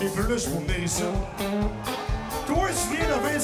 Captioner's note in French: cris d'enthousiasme